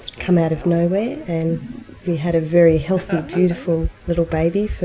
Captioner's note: laughing